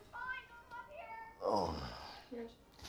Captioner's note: roger sighs